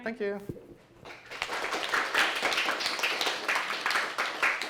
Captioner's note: applause